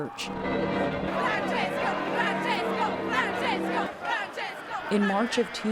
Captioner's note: chanting